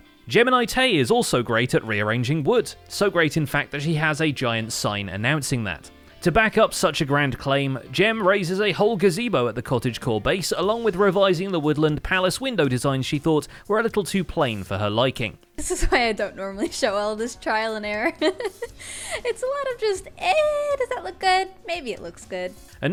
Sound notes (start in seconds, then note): 18.0 laughs